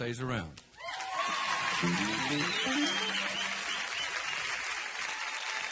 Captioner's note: audience cheering and applauding